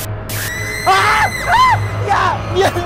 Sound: scream

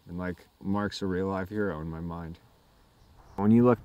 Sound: none

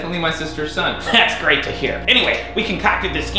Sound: chuckles

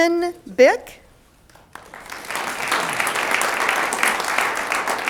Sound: audience applauds

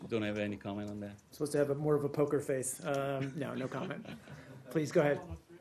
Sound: laughter

